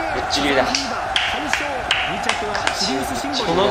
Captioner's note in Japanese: 拍手